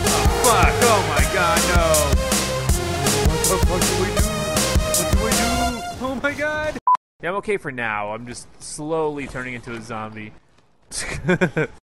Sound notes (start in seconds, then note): 11.0 laughs